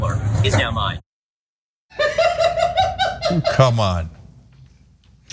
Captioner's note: laugh